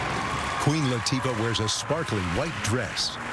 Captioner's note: cheering and applause